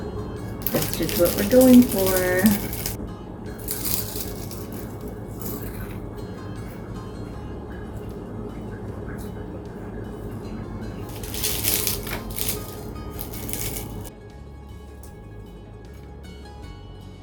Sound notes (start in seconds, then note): 1.7 flaky crunch